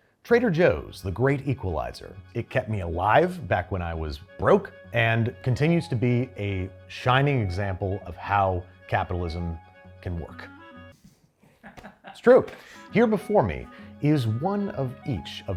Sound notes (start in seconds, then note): 11.6 crew laughs